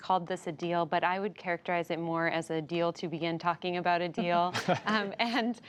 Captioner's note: laughter